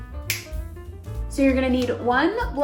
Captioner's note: snapping